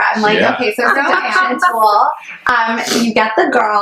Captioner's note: laughs